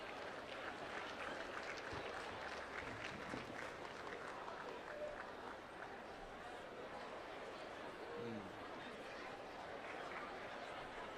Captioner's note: applause